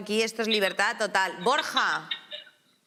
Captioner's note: laughing